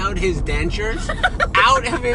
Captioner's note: laughs